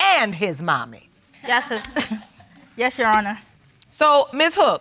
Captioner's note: laughs